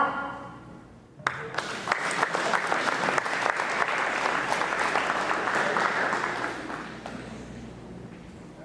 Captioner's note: applause